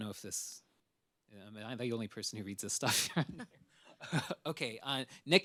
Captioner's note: laughs